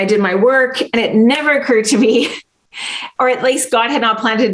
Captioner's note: laughs